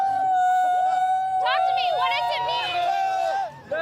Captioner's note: cheering